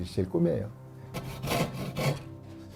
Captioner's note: sawing sound